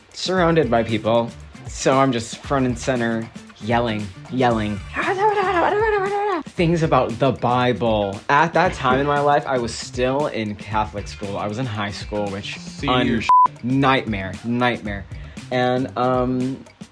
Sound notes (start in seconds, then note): 4.9 mimicking shouting